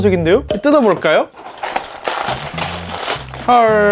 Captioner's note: Crunch